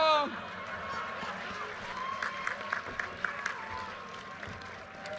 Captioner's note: audience cheers and applause